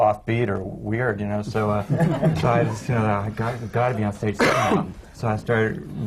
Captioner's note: laughter